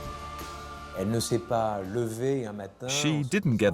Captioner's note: speaking French